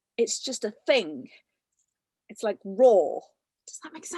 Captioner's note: none